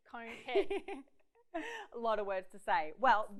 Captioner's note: laughs